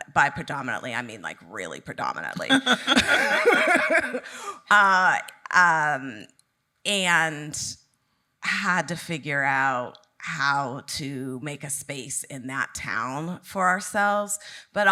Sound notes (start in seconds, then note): 2.4 both laughing